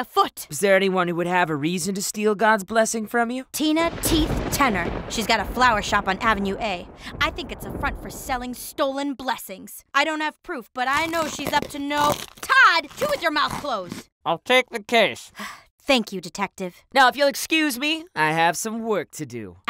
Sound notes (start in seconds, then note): 3.8 thunder rolls; 10.9 crunching